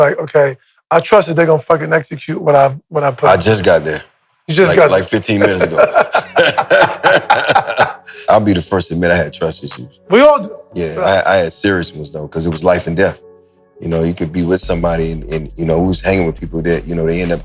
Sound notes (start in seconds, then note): 4.7 Maverick laughs; 6.6 laughs